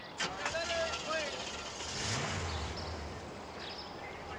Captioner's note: engine turning over